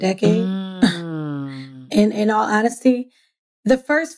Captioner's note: laughs